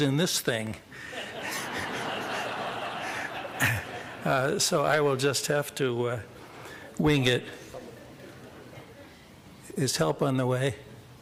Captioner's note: laughter